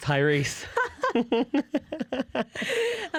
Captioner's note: laughter